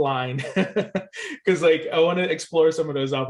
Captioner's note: laughs